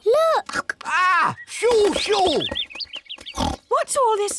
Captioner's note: birds tweet; oinks